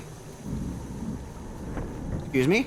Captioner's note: distant thunder